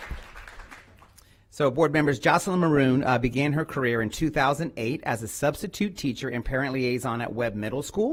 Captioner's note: applause